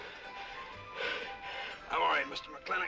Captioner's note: panting